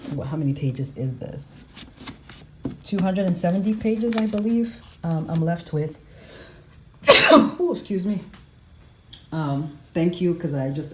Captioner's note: sneeze